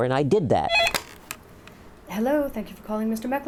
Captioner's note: phone rings